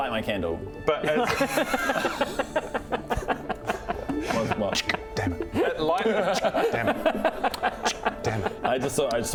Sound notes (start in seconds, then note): 1.8 dumbest-thing-I've-heard-today laughter; 9.0 chk